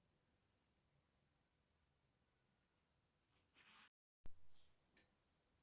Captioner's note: pauses 12 seconds